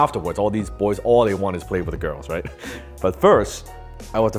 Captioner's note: chuckles